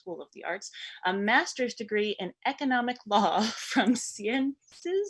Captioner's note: chuckles